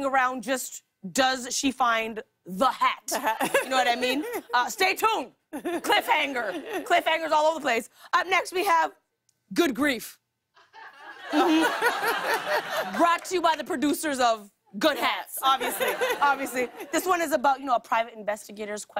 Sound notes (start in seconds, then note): 10.6 laughter